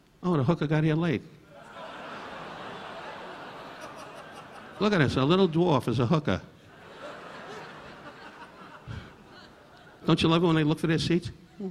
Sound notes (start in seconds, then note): 1.5 audience laughing